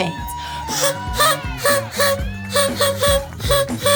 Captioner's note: party horn buzzes